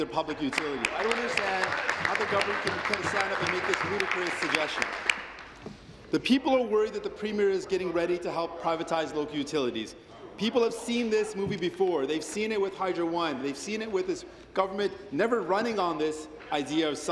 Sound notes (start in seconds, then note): 5.8 applause